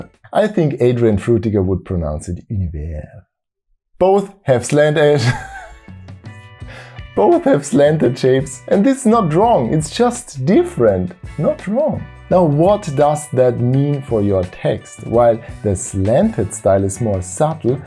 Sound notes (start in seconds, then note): 2.4 French